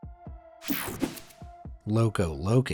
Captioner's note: air whooshing